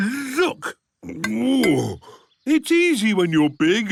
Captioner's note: grunts